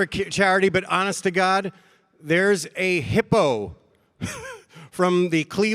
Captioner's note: chuckles